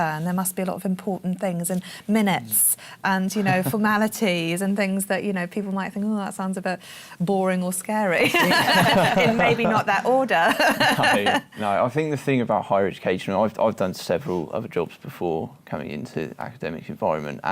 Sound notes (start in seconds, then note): 8.2 laughter